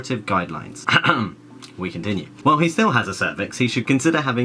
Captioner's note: clears throat